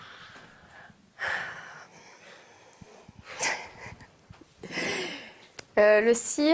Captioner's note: sigh